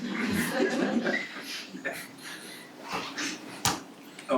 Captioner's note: attendees laughing